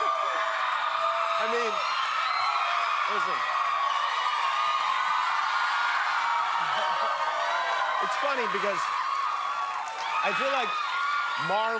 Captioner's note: cheers and applause